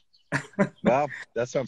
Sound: laughs

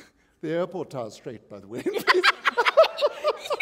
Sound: chuckle; laughter

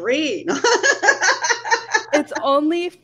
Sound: laughing

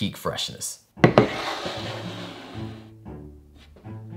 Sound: bowl sliding

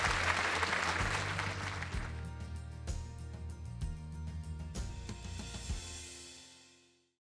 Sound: applause/Music

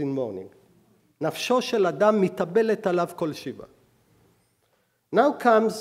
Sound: speaking hebrew

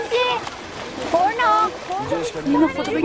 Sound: water splashing

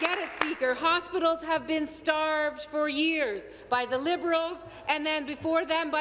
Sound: applause

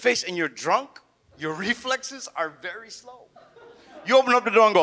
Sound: audience laughs

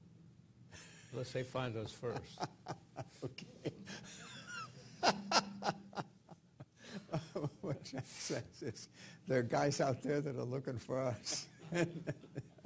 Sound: laughter

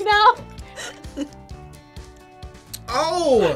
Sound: laughs

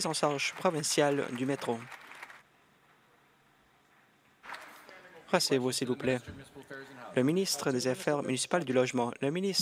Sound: applause

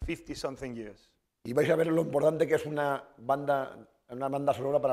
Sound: speaking spanish

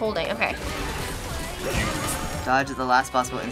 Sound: rapid gunfire; Bayonetta grunts

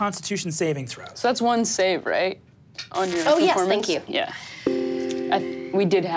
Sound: none

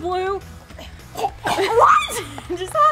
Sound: chokes

